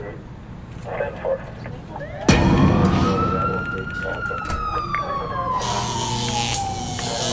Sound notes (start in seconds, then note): 0.3 voices on radio; 2.5 sirens wailing